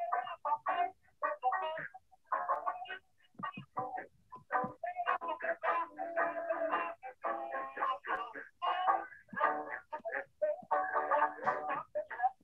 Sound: sound of throat clearing

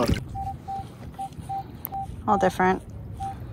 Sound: beep beep

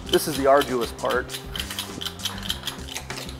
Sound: chuckles; metal clangs

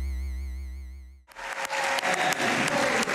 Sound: applause

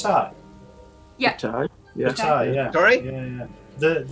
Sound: others agreeing

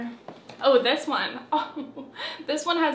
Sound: chuckles

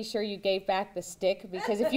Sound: laughter

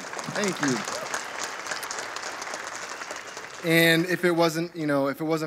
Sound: audience applauding

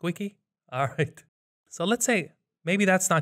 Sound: chuckles

